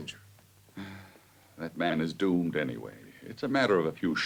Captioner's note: sighs